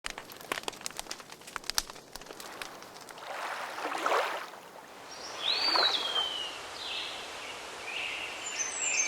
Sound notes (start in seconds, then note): 0.0 fire crackling; 2.4 water running; 6.1 birds chirping